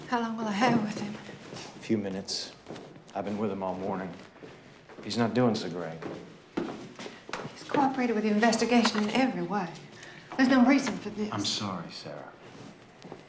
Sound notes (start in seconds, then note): none